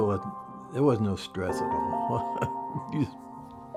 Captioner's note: laughs